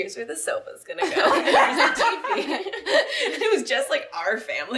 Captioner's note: laughing